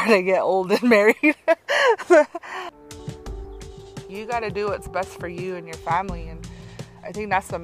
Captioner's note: laughs